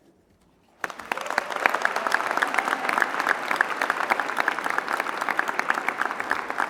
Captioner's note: applause